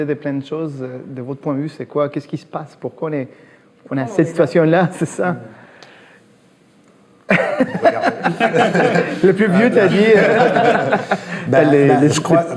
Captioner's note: laughs